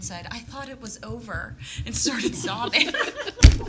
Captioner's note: laughing